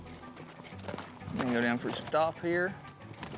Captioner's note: hoof beats